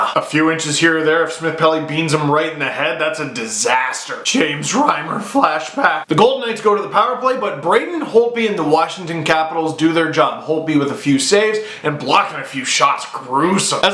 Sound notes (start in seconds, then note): 4.2 internal voice